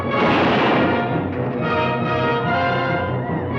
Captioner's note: dramatic orchestral music; gun fires